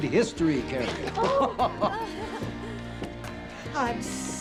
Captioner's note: laughing